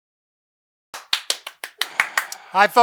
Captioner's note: clapping